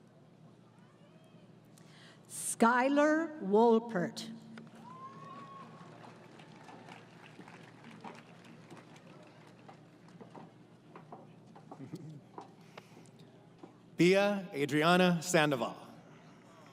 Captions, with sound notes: >> Skyler Wolpert. [ Applause ] >> Bea Adrianna Sandoval.